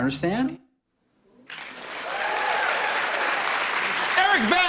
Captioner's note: cheers and applause